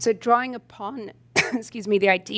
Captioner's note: coughs